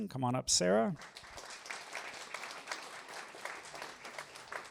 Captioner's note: applause